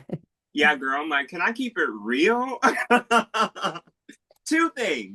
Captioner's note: laughing